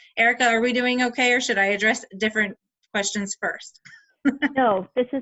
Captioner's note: laughs